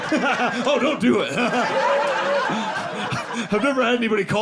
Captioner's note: audience laughing